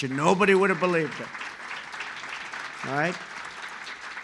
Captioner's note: applause